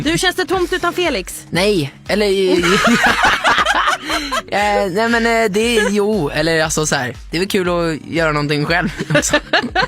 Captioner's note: laughs; laughing